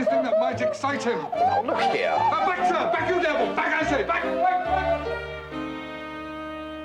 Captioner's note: Lady Glossop weeps